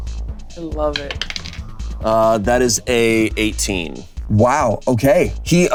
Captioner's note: die rolling